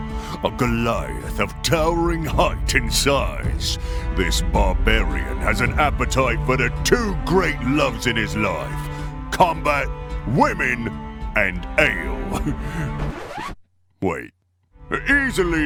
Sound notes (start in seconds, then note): 12.3 chuckle; 12.9 record scratch